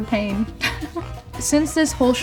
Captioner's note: laughing